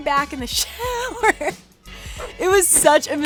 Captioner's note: chuckles